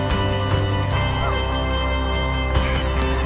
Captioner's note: heaves; heavy breathing